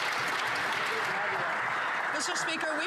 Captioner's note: some Applause